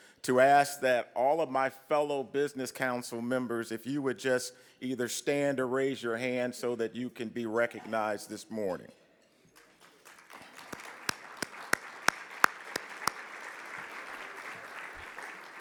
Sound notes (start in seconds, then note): 9.5 clapping